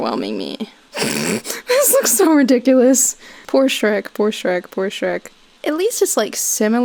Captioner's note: snorts